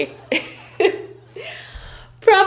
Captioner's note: laughing